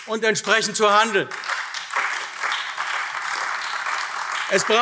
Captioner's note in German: Beifall AfD